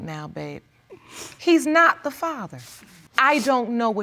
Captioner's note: sniffling